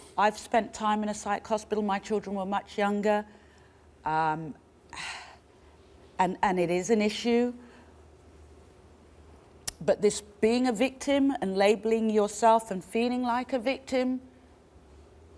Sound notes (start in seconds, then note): 4.5 sighs